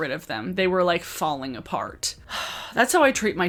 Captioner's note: sighs